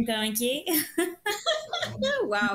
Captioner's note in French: rires